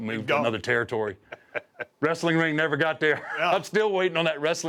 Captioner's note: laugh